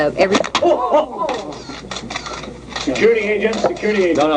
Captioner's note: crowd exclaiming; camera shutter clicking